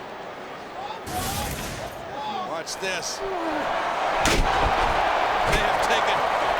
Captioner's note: graphics whooshing